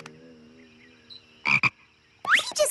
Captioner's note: croaks